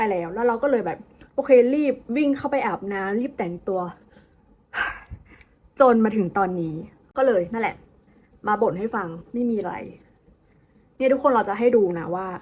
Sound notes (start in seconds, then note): 4.8 sigh